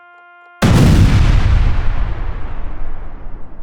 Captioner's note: bangs